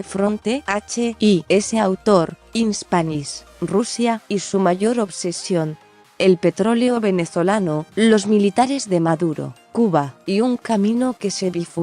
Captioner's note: in Spanish